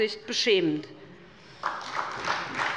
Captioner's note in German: Beifall bei der SPD